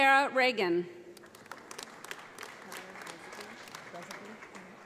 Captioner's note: audience applauds